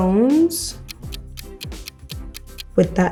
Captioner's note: ticking